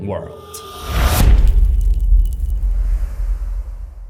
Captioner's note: impact